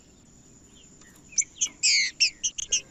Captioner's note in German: trinca ferro cantando